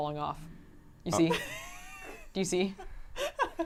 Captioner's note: laughs